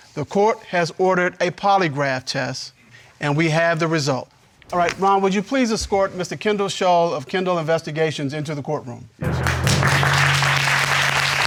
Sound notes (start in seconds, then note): 9.2 all applauding